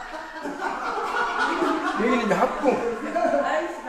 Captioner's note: visitors roaring with laughter